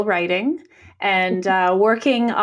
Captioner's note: nods and mumbles